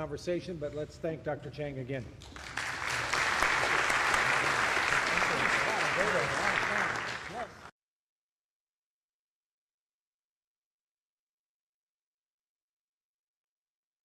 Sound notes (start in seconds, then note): 2.2 applause